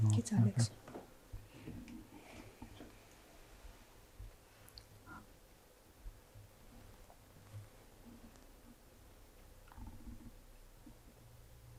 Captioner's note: silence